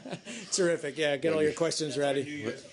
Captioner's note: laughter